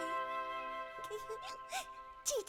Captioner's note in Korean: 울먹이는 소리